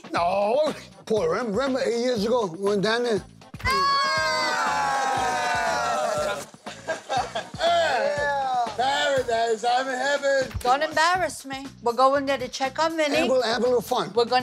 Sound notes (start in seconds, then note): 3.6 Snooki yelling; 3.6 everyone yelling; 6.6 everyone laughing